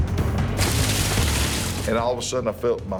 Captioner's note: splash